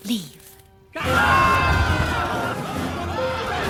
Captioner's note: yelling